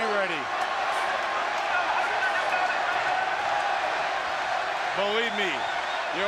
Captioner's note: crowd chatter